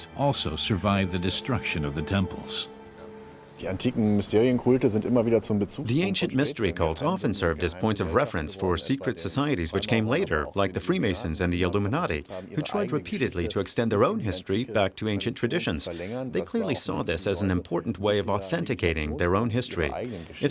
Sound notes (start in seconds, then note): 3.6 speaking in German